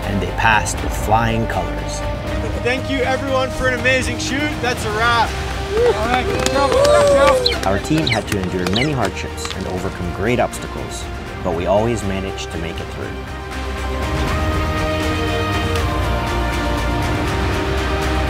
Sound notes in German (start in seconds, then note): 5.1 Klatschen und Jubeln; 14.1 Kraftvolle Orchestermusik